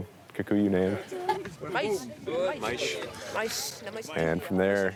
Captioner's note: kid speaking in native tongue